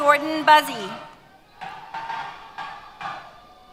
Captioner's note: cheers